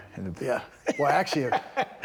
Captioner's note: Bron laughing